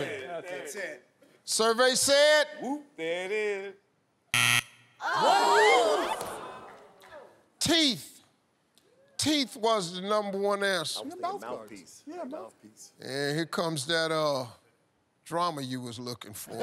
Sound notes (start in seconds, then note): 4.3 buzzer buzzes; 5.0 all groan